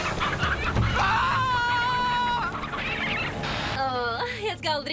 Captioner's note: screams